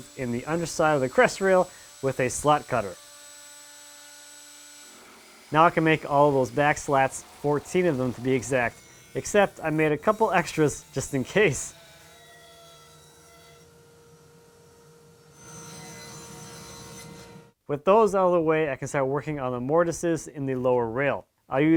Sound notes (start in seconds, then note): 3.3 cutter buzzing; 12.0 saw buzzing